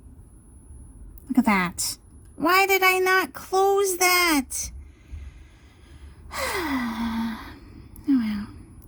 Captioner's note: heavy sigh